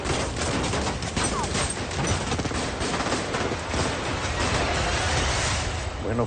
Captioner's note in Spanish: Disparos